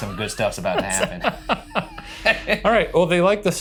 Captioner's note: both laughing